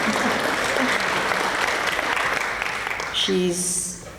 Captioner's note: applause